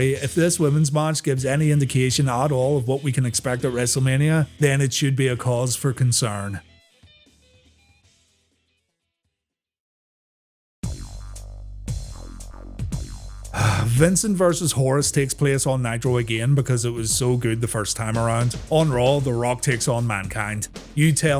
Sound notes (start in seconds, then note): 9.6 sigh